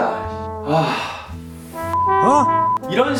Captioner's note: big sigh